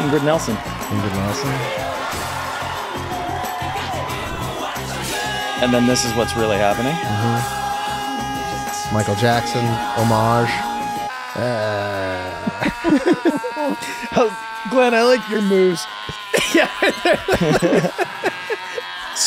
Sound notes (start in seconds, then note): 5.4 Mac yelling; 12.8 everyone laughs; 15.9 everyone laughs